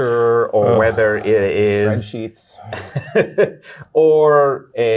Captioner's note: guy laughing